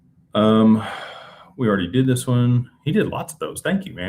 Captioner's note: sighs and gasps